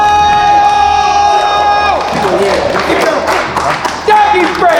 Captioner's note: clapping